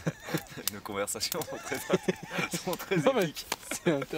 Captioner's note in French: rires